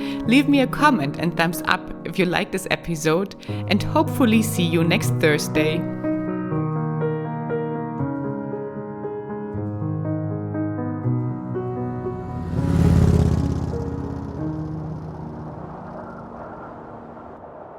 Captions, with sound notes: Leave me a comment and thumbs up if you like this episode and hopefully, see you next Thursday. (tranquil piano music) (motorbike roaring) (wind blowing)